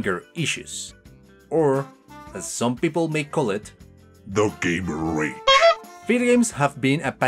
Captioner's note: honk